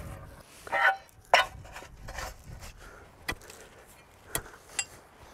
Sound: men breathing heavily

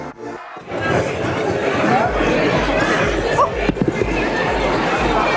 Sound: people chattering

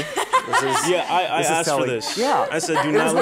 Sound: laughter

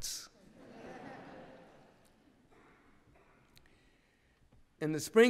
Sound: laughter

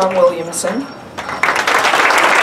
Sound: applause

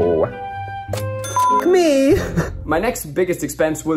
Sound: chiming sound

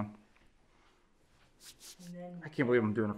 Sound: hands rubbing

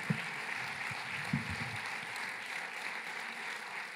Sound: applause

